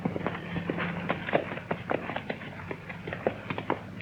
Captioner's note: horse trotting